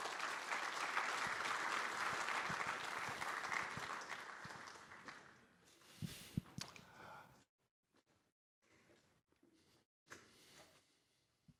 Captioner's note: applause